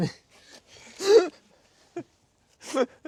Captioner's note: laughing